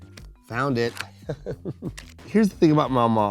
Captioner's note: chuckles